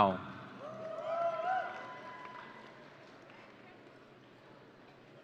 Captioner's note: audience cheering